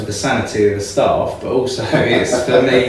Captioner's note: laughing